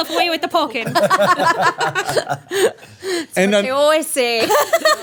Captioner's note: everyone laughing